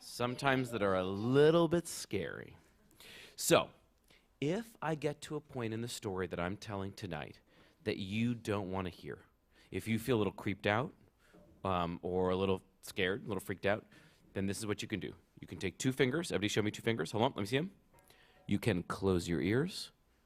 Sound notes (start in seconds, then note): none